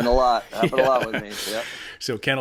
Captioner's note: laughing